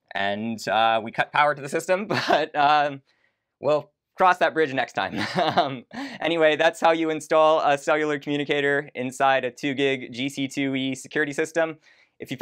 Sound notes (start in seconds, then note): 5.1 laughs